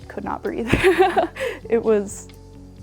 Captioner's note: laughs